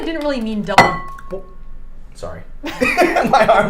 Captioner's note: bowls clang